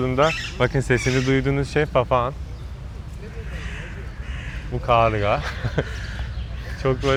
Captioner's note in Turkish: kahkaha